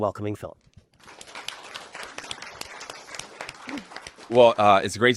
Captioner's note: applause